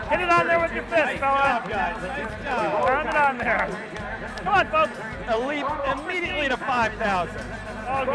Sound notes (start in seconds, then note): 2.8 hands clapping